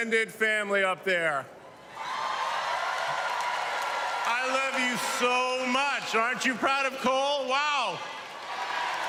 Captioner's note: cheers and applause